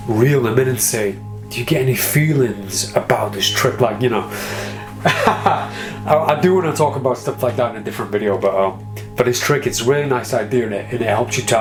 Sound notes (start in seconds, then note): 4.6 laughs